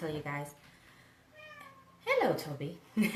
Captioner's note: meowing